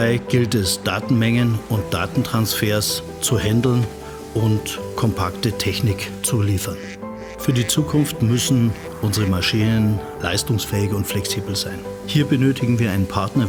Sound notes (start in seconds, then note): 0.0 bright piano music; 0.3 speaks foreign language; 6.5 bird squawks